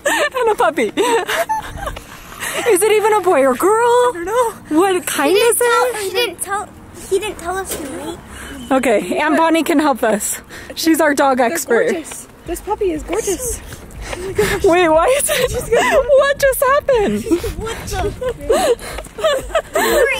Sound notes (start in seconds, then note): 1.7 excited squealing; 15.6 laughing; 18.6 laughing